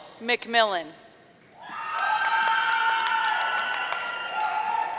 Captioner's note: audience cheering